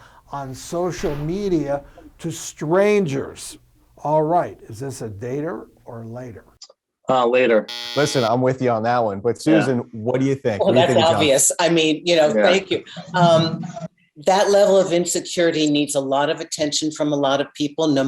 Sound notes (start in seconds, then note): 7.6 buzzer sounds